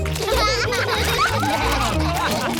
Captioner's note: all laugh